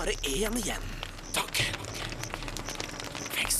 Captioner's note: whispering